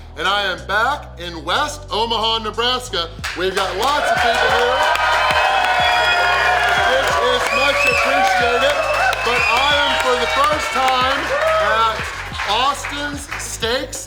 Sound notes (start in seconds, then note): 4.8 audience cheering